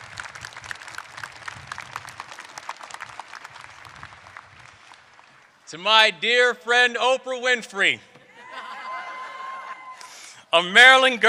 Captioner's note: applause